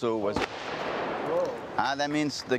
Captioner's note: loud shot